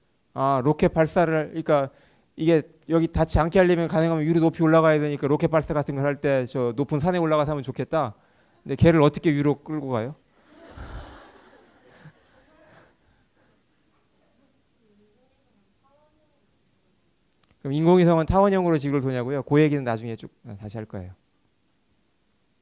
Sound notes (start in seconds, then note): 14.5 laugh